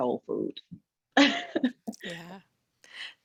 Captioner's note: laughs